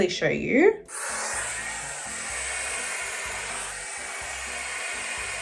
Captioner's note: hairdryer whirring